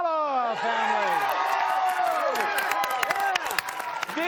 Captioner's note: cheers and applause